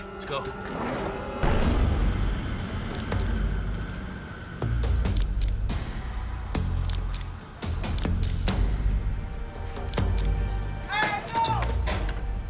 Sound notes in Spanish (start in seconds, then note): 6.8 Clic de la cámara; 11.0 Gritos